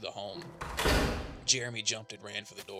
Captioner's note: distant crash